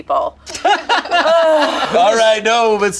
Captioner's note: group laughs